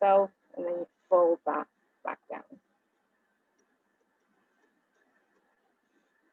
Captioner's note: silence